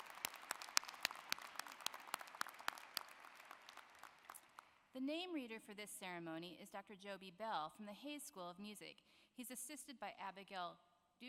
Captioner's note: applause